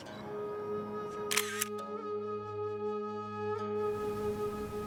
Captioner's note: camera clicking; gentle music